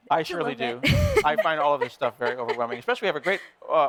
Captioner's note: laughing